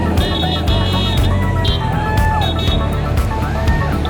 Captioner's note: crowd cheering